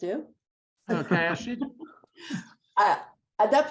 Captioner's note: laughing